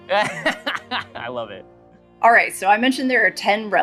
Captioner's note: laughing